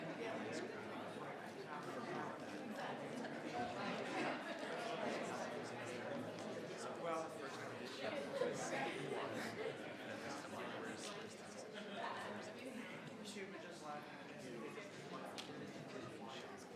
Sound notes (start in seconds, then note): 2.1 crowd chattering continues